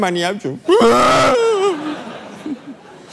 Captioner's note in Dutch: hard huilen